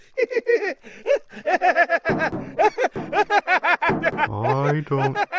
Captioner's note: laughter